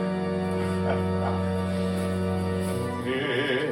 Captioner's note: sinister laughter